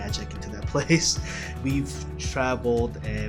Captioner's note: chuckles